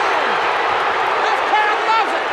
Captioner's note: audience cheers